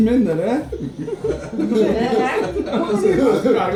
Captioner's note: people laugh